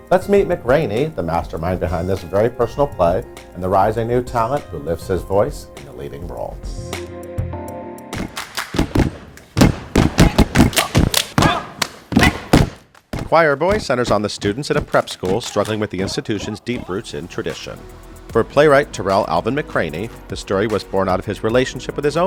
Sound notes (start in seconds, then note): 8.2 claps; 8.6 steps